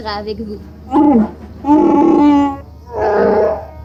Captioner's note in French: en Shyriiwook